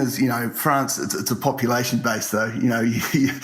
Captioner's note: laughs